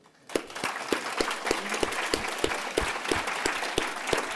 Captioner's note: audience applauds